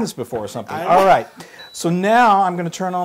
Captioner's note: laugh